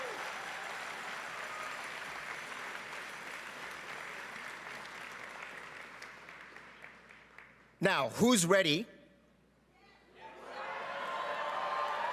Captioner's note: cheering and Applause